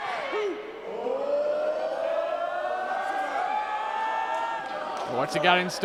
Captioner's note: crowd hollering